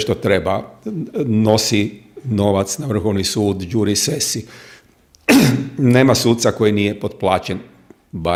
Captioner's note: coughs